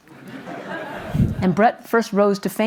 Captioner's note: audience laughs